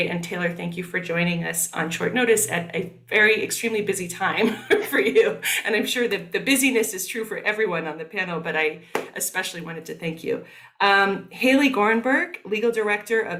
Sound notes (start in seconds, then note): 4.4 laughing